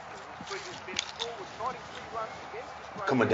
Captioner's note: crunches; scraping and rustling